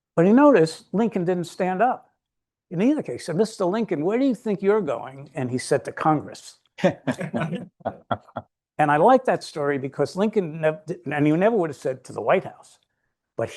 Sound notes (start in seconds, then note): 6.8 all laughing